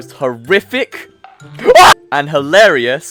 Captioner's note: scream of Terror